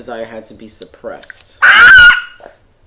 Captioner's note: screaming